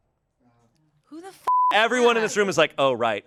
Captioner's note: beep